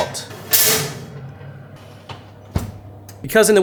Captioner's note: oven rattling